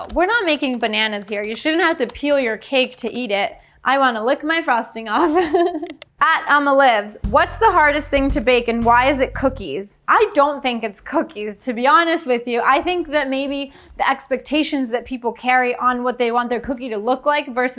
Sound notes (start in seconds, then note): 5.2 chuckling